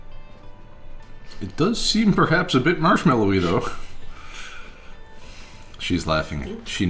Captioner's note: both laugh